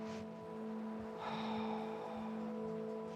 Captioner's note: sighs